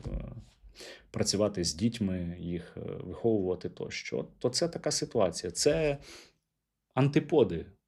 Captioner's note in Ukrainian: сопіння